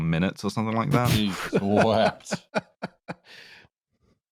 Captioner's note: laughs